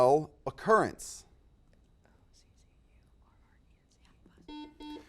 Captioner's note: whispering; buzzer beeps